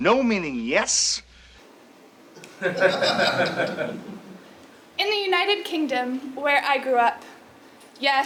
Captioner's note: laugh